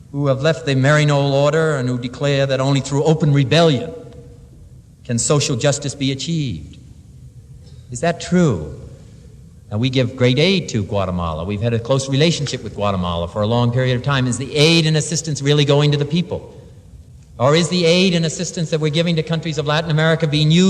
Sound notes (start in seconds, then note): none